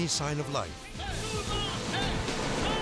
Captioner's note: people shouting